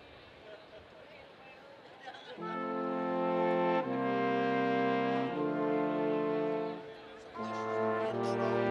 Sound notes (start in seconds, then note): 2.5 students chattering; 2.5 upbeat collegiate music